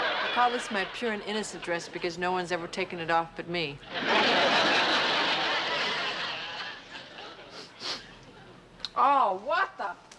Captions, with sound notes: I call this my pure and innocent dress because no one's ever taken it off but me. [laughter] [sniffing] Oh, what the--?